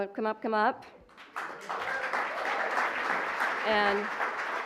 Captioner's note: applause